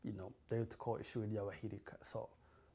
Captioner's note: non-english